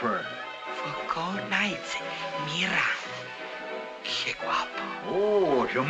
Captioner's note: in spanish